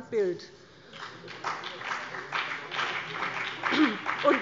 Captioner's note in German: Beifall BÜNDNIS 90/DIE GRÜNEN